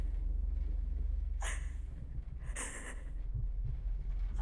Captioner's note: Catherine crying